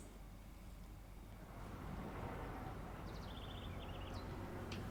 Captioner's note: faint sound of the outdoors, birds tweeting, quiet traffic now and then